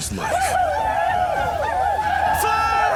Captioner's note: war cries